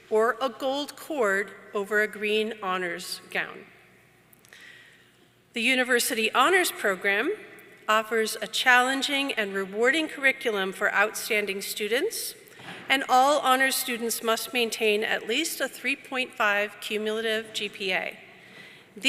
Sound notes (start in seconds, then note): none